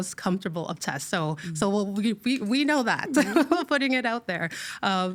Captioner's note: laughing